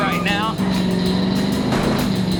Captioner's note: tires squealing